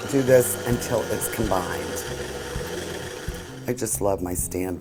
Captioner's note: mixer whirring